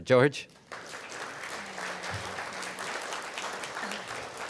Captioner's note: applause